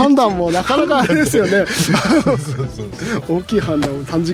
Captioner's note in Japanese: 笑い